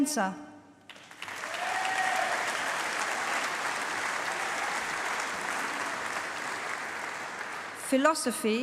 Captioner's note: applause